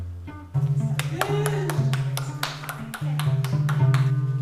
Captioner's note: applause